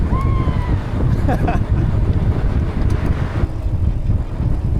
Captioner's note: laughs